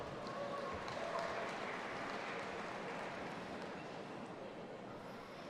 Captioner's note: audience applauding and cheering